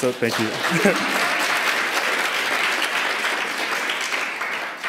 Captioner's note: applause